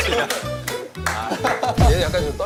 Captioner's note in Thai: ปรบมือด้วยสีหน้า